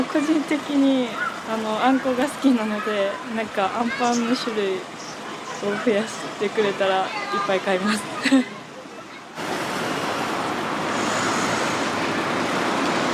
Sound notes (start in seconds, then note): 7.2 laughs